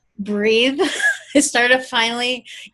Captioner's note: laughs